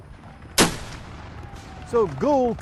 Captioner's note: gun blasts